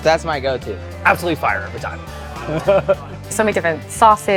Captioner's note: laughs